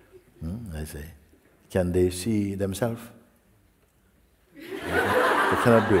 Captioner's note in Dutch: gelach